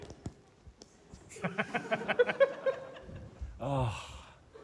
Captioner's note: laughter